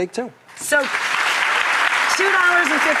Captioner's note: audience applauds